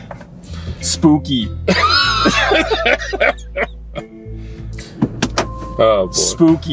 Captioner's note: both laughing